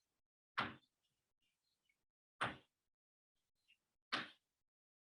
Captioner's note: chalkboard tapping loudly